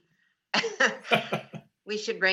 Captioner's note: laughing